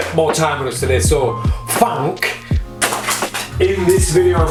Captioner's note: shuffling cards